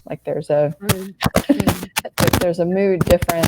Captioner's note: laughing